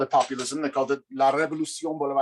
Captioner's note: speaks in foreign language